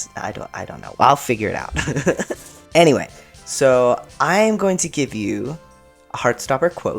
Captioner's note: laugh